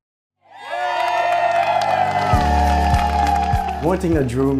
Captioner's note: group cheering